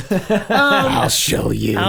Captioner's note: laughing